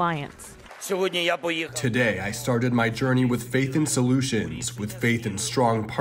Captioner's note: through translator